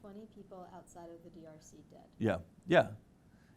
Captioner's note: murmur; murmurs